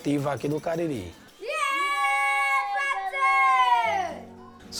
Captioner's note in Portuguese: grito